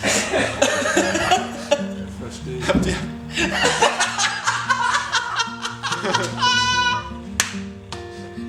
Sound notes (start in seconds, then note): 0.0 everybody laughing; 3.3 cracking up